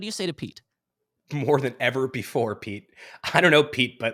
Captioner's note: chuckles